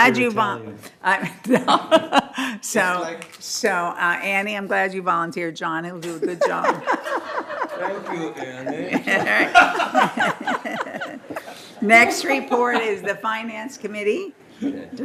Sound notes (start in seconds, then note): 6.0 laughter